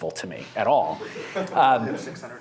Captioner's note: laughter